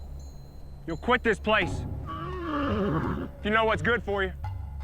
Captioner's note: tense music; horse neighing